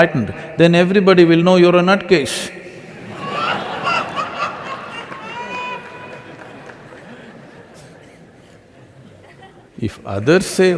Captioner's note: laughter